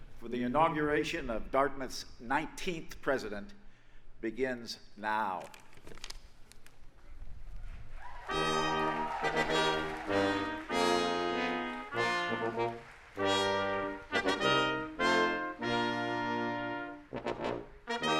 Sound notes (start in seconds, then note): 7.9 audience applauding; 8.2 upbeat processional music